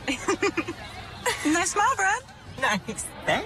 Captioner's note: laughing